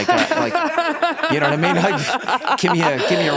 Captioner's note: everyone laughs